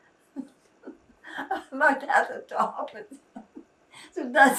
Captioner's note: laughing